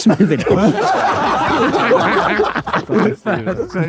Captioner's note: group laughing